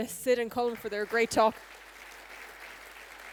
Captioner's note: applause